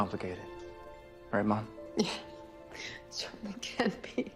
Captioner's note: chuckles